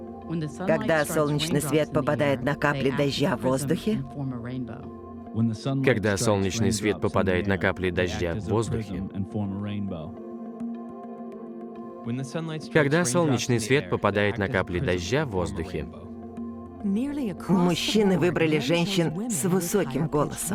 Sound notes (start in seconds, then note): 0.4 low-pitched voice; 5.8 low-pitched voice; 11.9 high-pitched voice